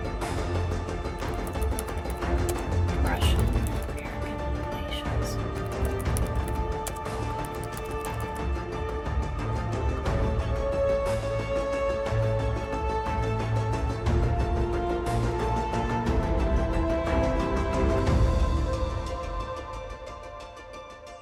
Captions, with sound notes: (lively orchestral music continues) Russian American relations. (keyboard clacking) (lively orchestral music continues) (slow music)